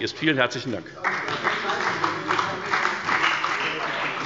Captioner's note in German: Beifall bei der FDP und der CDU